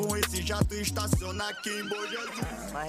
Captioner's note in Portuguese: relinchando